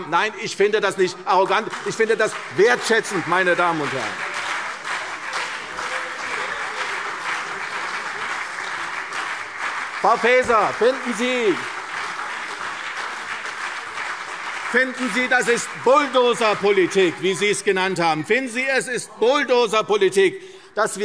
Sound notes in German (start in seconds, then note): 4.0 Beifall CDU und BÜNDNIS 90/DIE GRÜNEN – Zuruf SPD: Das ist unredlich!